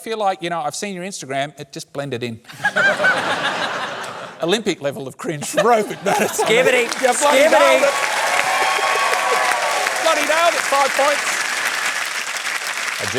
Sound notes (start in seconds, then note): 2.6 laughs; 6.0 cheering, applause